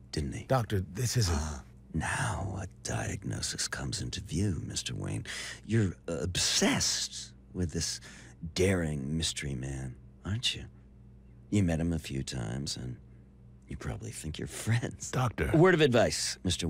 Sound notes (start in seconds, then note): none